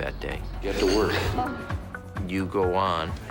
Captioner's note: chuckling